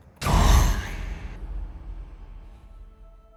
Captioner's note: shout; ambient music